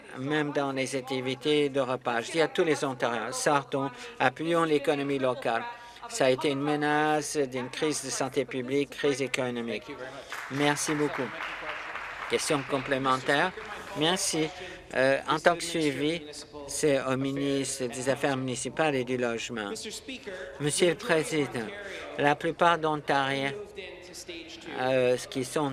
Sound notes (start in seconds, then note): 14.9 applause